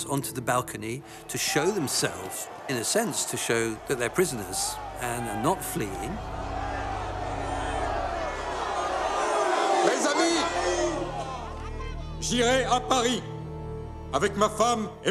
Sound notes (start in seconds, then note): 6.5 rioters shouting; 9.9 Louis XVI speaking in French; 9.9 tense music